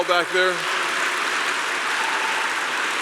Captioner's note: applause